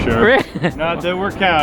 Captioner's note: laughter